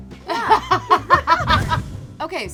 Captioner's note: both laughing